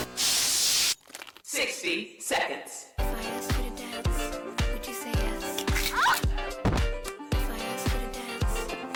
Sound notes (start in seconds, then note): 1.3 computer over speaker; 5.2 bone snap; 6.4 body thud